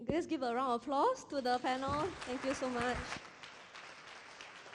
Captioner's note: applause